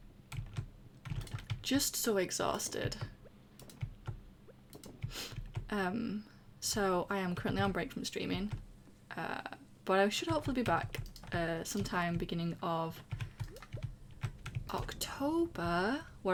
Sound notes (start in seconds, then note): none